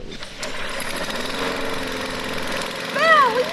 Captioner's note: mower starting